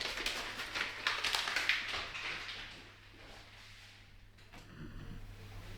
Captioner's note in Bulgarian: Аплодисменти